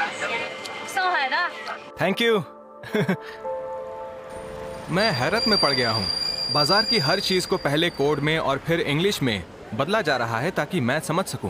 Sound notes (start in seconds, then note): 1.3 speaking chinese